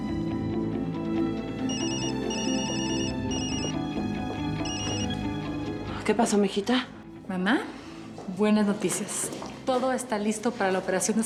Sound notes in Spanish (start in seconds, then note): 0.1 sonido al marcar; 1.6 suena el celular